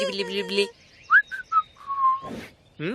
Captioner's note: whistle